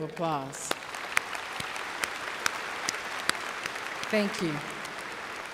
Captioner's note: applause